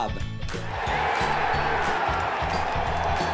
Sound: applause

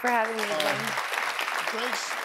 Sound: audience applauding

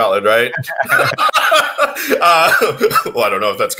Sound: both laugh

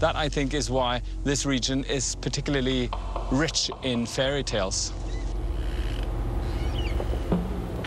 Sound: birds chirping

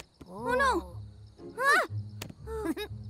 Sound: exclaims

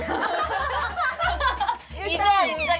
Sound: laughing

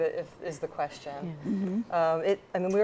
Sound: laugh

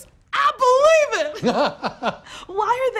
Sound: laughs

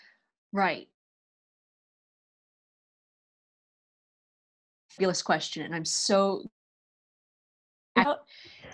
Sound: sound cuts out briefly

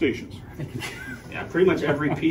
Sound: laughs

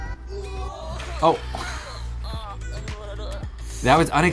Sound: chuckles

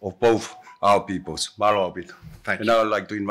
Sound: in Tongan

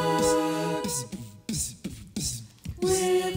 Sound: beatboxing

